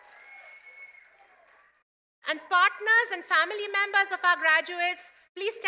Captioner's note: cheers and applause